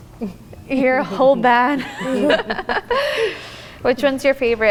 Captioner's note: chuckles